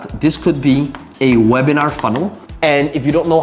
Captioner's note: marker tapping